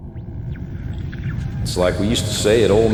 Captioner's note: sounds of rumbling and radio static enter